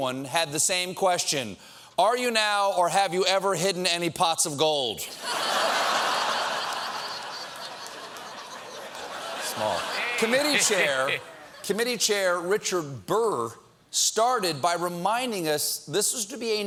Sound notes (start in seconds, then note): 5.1 laughter